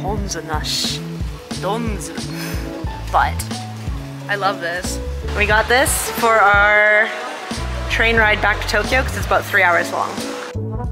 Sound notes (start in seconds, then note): 0.1 speaking in foreign language